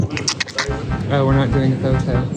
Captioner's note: adorable overload wincing noises